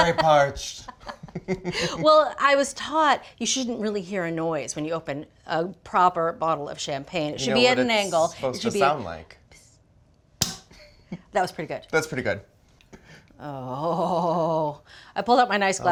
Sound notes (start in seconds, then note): 0.0 laughing; 10.4 bottle pops